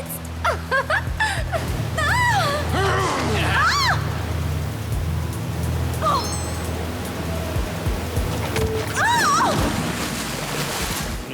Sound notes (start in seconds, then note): 6.1 alarm ringing